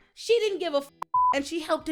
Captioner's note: beep